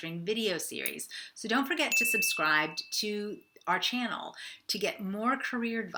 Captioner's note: bell dinging